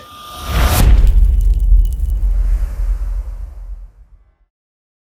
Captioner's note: impact